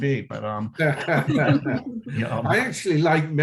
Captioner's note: laughing